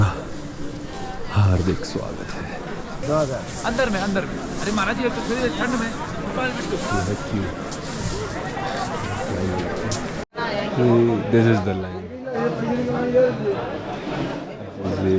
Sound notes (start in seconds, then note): 10.6 crowd buzz